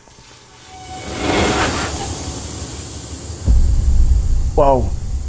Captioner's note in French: Bruit de machine